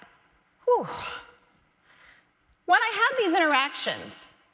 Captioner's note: exasperated sigh